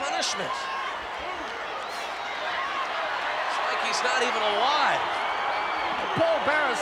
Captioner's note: applause